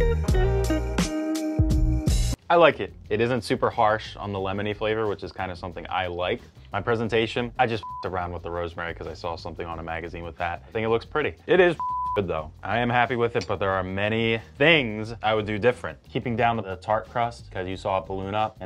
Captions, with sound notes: I like it. It isn't super harsh on the lemon flavor which is kind of something I like . My presentation. I just (beeps) around with the rosemary 'cause I saw something on a magazine with that. I think it looks pretty. It is pretty (beeps) good though. I am happy with it. But there are many things I would do different. Keeping down the tart crust 'cause you saw a balloon up.